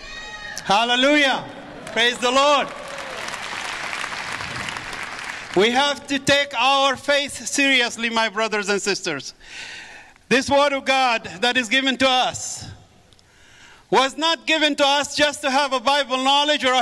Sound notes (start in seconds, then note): 3.9 audience applause